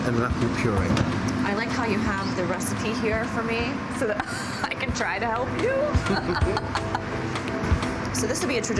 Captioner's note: laughing